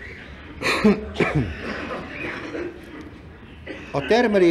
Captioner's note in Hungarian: Köhög